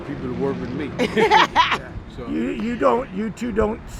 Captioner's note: laughs